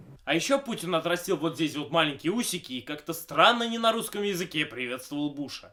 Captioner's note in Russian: none